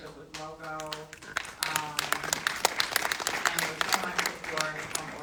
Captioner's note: audience applauding